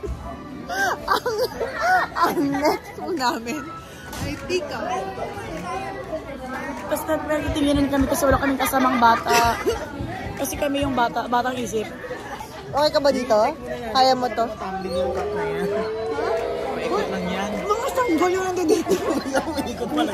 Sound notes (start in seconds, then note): 0.7 laughs; 15.3 child crying in the background